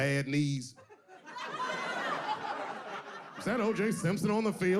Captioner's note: audience laughing